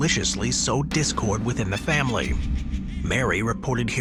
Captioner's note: entity laughing